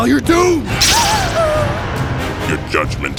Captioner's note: panicked yell